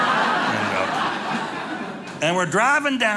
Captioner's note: audience laughing